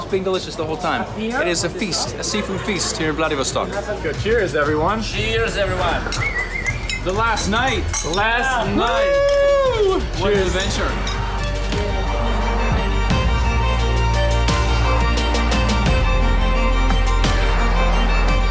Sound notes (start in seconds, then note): 6.0 whistles; 8.5 man cheers; 12.3 upbeat music